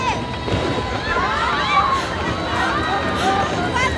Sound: thunder crackles; passengers shrieking

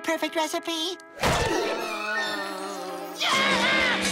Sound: screaming

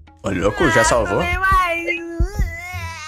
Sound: sobbing

